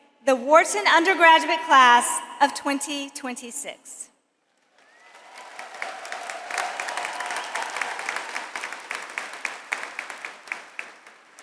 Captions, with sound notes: the Wharton undergraduate class of 2026. (audience applauds)